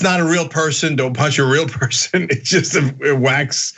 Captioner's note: laugh